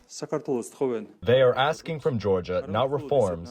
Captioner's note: through translator